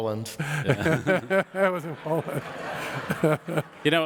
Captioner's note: audience laughter